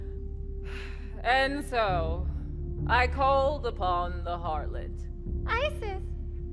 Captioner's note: sighs